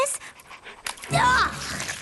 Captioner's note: splat